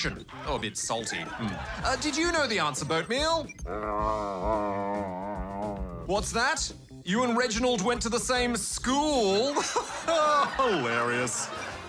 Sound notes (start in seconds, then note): 0.9 laughter; 3.6 grumbles; 9.3 laughter; 9.4 laughs